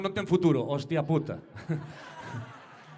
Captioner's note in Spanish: risas